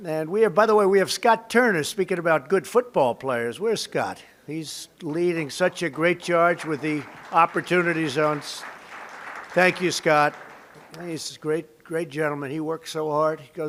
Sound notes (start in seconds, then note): 8.5 applause